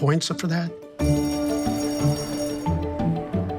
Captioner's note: bell rings; joyful music